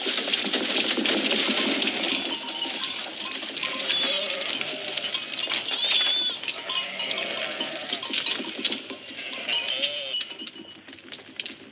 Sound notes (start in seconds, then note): none